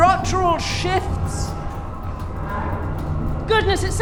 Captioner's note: creaking sounds